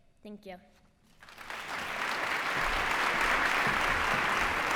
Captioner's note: applause